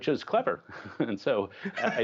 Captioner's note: laughter